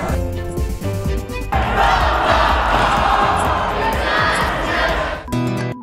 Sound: cheering

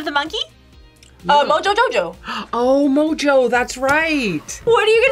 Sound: gasps

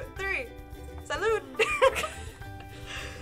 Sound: laughing

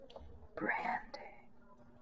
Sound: whispering breathily

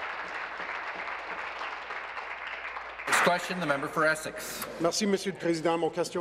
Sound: applause

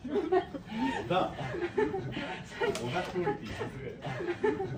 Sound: giggling

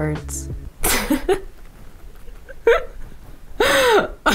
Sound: chuckles

